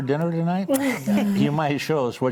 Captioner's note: group laughs